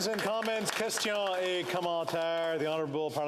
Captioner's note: applause